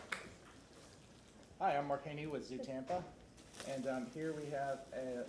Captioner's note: applause